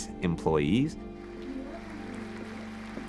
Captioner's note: applause